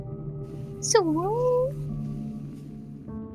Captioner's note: imitates specter noise